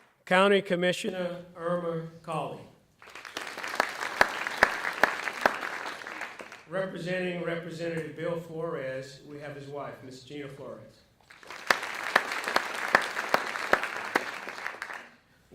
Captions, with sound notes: County Commissioner Irma Cauley. (audience clapping) Representing Representative Bill Flores, we have his wife, Ms. Gina Flores. (audience clapping)